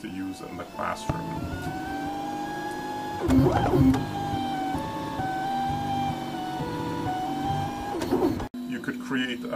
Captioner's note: printing sounds from 3D printer